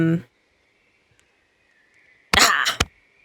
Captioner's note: chuckles